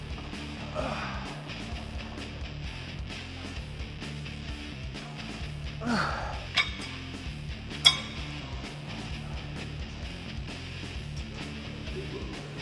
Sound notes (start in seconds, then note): 0.0 upbeat rock music continues; 6.5 metal clunking; 8.5 upbeat rock music continues